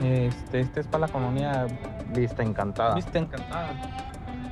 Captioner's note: speaking spanish